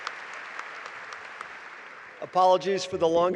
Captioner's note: applause